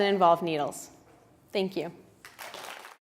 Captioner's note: audience applauds